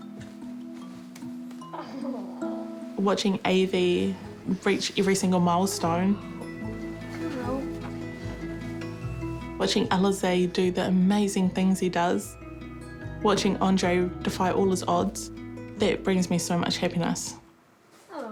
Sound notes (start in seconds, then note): 1.7 giggles